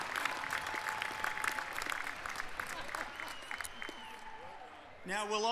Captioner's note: applause